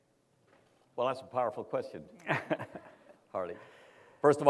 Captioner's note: laughs